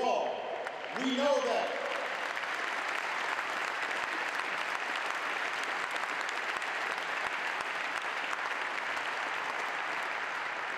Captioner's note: aplause